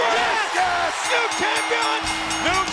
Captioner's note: audience cheers; bell rings